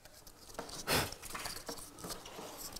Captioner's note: blowing